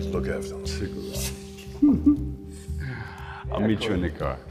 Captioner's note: chuckles